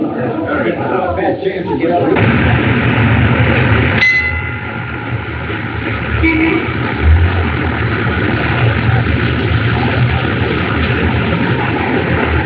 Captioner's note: chattering